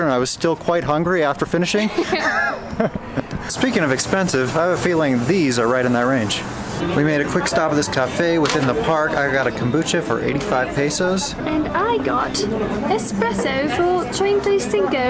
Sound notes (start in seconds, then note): 1.8 laugh